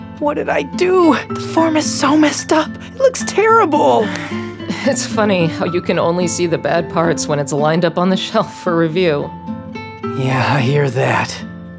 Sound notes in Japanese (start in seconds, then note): 3.9 ため息